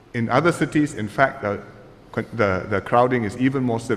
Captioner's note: none